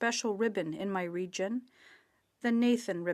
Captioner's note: speaking French